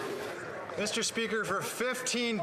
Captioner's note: some Applause